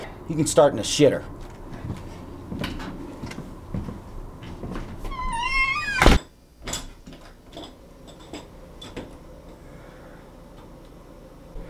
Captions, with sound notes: You can start with the shitter. [door closes] [door opens]